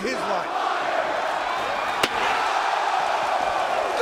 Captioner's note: spectators chanting; spectators exclaiming